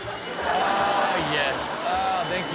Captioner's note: machine whirring; audience laughing